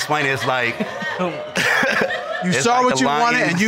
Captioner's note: all laugh